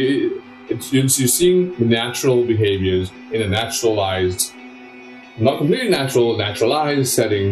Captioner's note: stammers